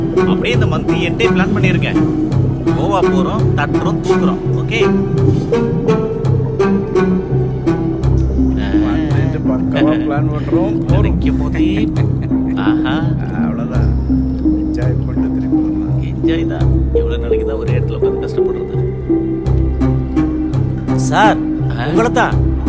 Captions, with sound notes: (Faint voice) What about you sir... (Faint voice) It seems sir is already dreaming about Goa!!! 'Concentrate on your work, sir.' (Faint voice) Sir...